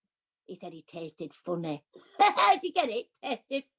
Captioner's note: laughs